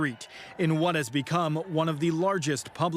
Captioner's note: applause